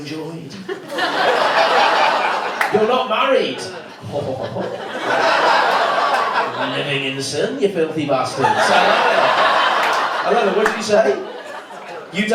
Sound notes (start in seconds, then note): 3.6 laughs to self